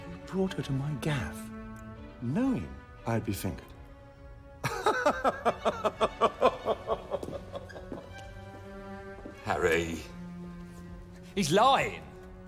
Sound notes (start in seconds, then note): 4.6 laughing